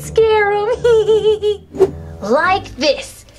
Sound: laughs

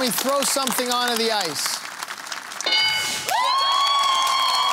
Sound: cheering and applause

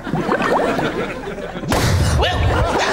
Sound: popping

